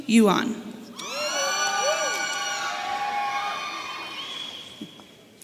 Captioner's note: audience cheering